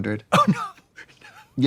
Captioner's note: laughing